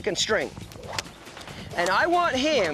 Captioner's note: stick cracking